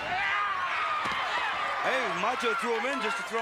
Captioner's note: Doink yells